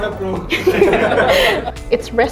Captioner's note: laughing